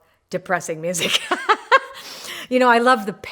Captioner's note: laughing